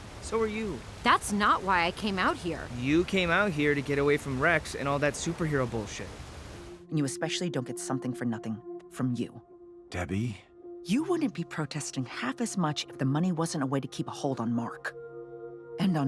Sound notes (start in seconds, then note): none